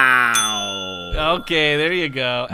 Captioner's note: bell ding